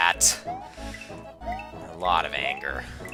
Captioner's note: inhaling